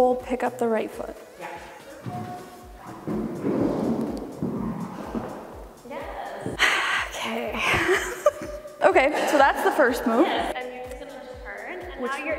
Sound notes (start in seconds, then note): 3.2 foot scraping; 6.3 sighing; 7.3 laughing